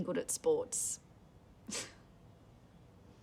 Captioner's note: chuckles